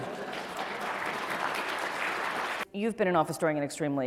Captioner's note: applause